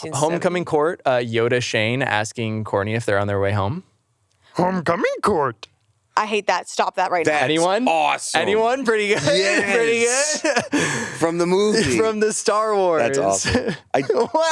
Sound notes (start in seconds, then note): 4.7 mimics